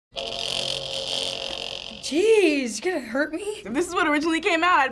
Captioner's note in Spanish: zumbido